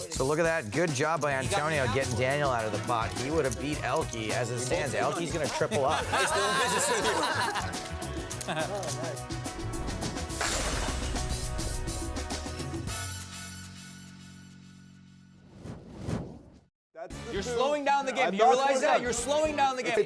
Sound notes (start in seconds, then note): 7.1 laughter; 8.1 upbeat music